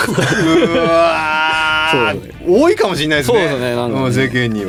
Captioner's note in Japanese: 叫び声